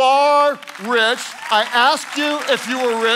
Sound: congregation clapping

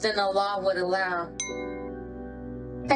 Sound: glasses cling

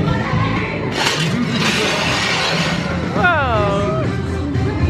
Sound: upbeat music; spades scraping

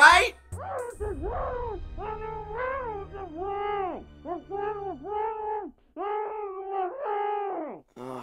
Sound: muffled, literally internal screaming

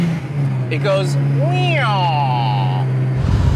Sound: car engine revving; imitates engine revving; car engine revving

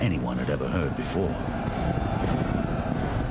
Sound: battle cry

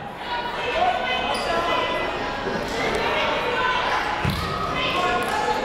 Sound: people shouting in the crowd

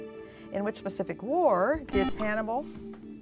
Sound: buzzer

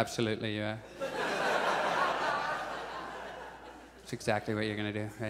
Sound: audience laughs

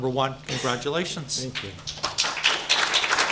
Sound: clapping

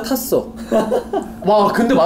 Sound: laughing

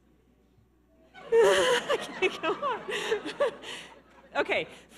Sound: laughs

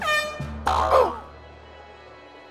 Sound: air horn sounds; groans

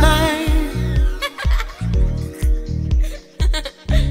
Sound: woman laughing

